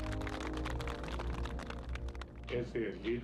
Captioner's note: applauding